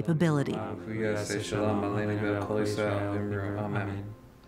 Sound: speaking in Hebrew

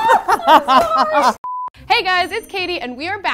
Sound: laughs; intermission beeping

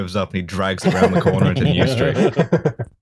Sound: laughter

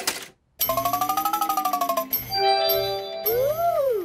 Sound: beeps and chimes

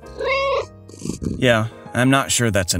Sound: meow

